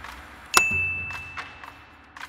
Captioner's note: snappy music; bell dings; snappy music